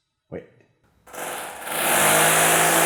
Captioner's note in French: bruits de perceuse